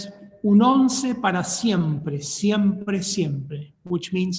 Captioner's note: speaking in foreign language